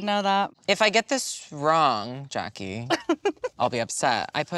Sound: laughs

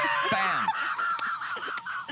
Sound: laughter

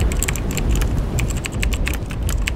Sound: keyboard clicking

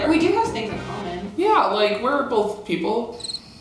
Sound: laughs

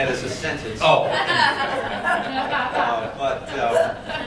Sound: laughter

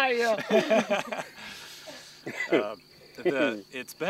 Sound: laughter

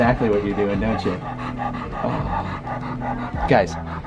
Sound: dog pants

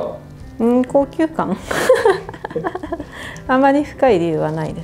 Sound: laughs

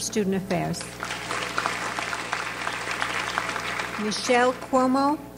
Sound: audience applauds

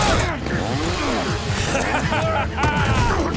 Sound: laughing

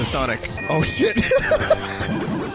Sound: laughing

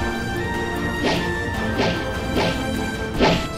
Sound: knife flying

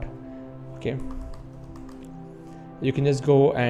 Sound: keyboard typing

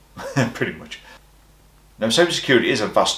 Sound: laughs

